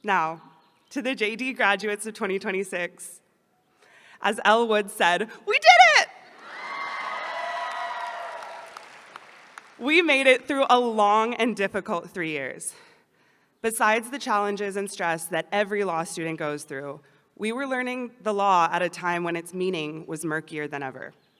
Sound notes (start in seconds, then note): 6.4 applause